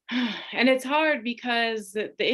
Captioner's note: sighing